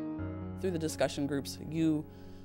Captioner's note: voiceover